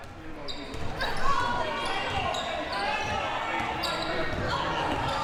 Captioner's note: audience chattering and yelling